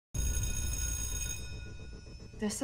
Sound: bell ringing

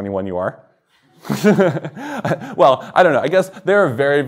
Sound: chuckles

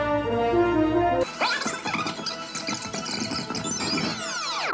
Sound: squeaky tape rewinding

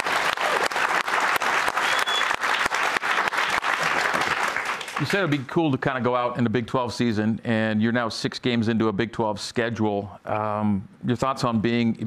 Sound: applause

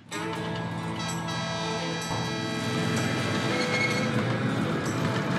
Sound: train whistle blows

